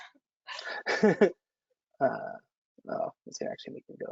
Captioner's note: chuckles